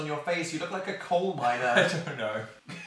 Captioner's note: chuckles